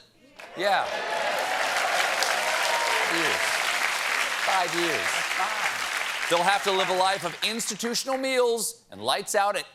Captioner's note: applause